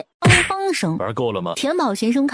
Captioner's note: beating